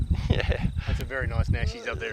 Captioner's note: laughter